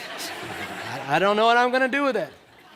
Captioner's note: laughter